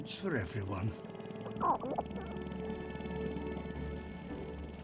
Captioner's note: clucks